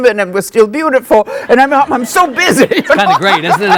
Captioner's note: laughs